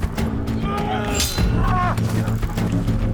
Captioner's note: swords clanging; dramatic music